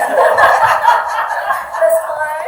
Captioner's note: audience laughter